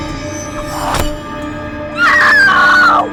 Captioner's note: Shelby screams; startling music; knife thuds